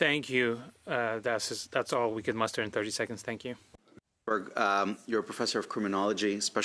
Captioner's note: speaking French